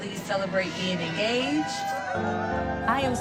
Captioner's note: crowd cheering